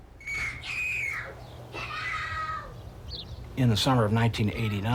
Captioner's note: screaming